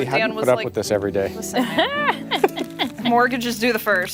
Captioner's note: laughter